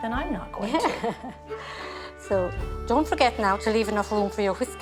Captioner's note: chuckles